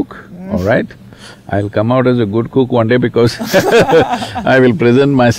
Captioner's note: laughter